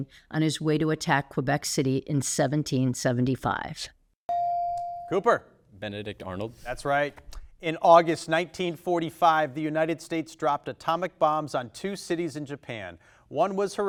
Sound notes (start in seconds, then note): 4.3 bell dings